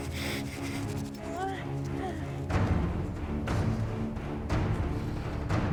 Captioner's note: Abigail groaning